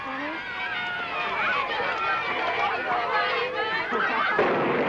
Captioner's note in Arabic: تصفيق الرعد